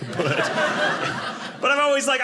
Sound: audience laughing

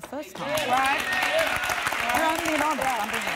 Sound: applause

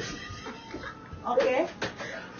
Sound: laughs

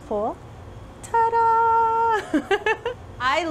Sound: laughs

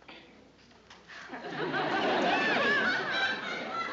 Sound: laughter

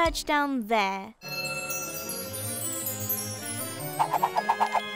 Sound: magical tinkling

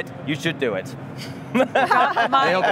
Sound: everyone laughing

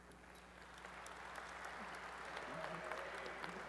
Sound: applause

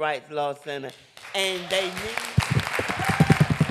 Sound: applause

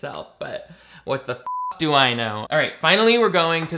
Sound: beeps

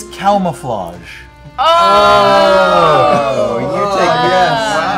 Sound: groaning

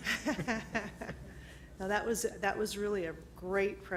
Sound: laughs

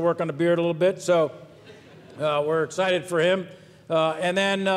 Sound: audience laughs

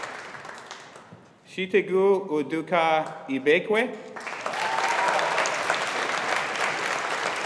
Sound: audience applauding

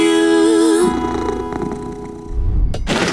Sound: purring

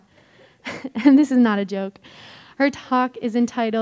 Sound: laughs

